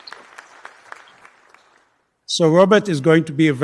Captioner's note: applause